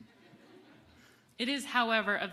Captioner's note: audience laughing